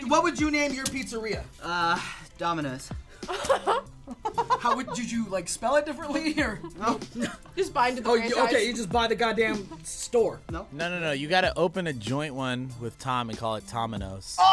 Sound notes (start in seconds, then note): 3.2 laughs